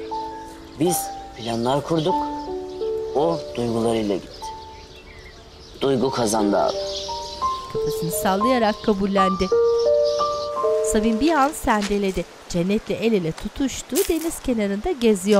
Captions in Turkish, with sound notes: Biz planlar kurduk, o duygularıyla gitti. Duygu kazandı abi. (Kuş cıvıltısı sesleri)